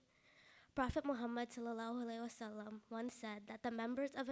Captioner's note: speaking in foreign language